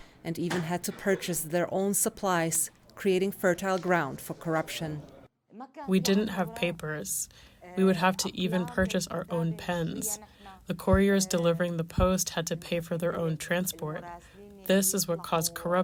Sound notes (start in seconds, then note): 6.3 through translator